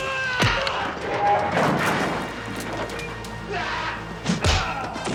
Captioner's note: furniture crashing